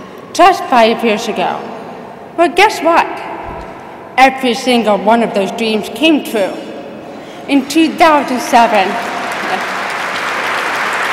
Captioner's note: applause